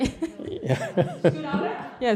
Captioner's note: laughter